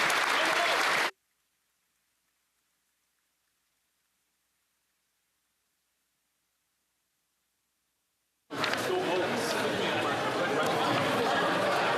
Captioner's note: applause